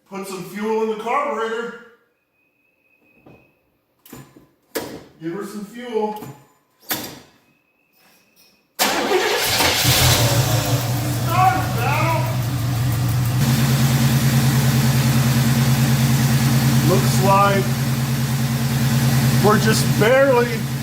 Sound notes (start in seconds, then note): 8.8 engine starts and idles